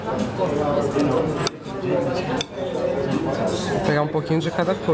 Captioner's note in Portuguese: ambiência de restaurante